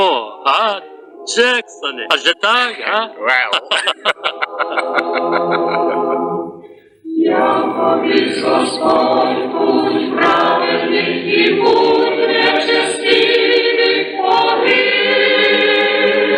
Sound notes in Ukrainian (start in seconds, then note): 2.8 сміх